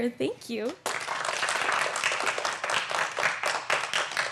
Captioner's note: applause